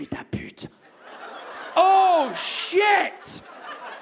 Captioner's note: audience exclaims